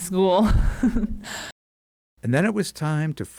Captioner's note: chuckles